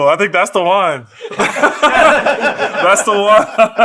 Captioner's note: laugh